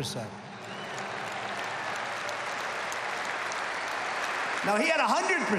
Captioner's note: applause